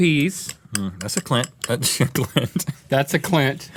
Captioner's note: laughing